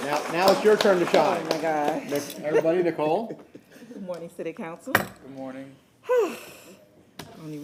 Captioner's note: applause